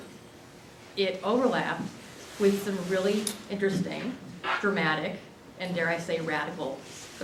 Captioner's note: none